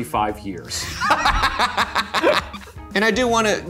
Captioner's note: laughing